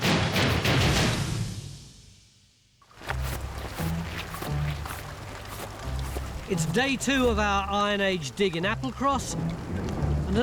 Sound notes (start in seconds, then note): 0.0 dramatic theme music; 2.8 gentle music; 4.3 rain falls